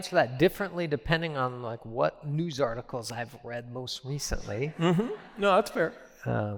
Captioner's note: laughter